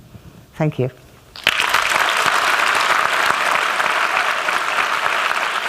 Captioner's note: applause